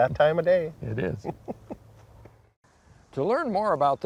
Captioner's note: laughing